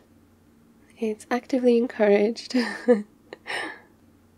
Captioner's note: laughs